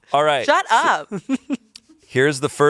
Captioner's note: laughs